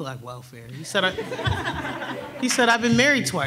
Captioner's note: everyone laughs